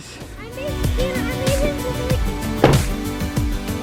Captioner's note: children chattering; doors slam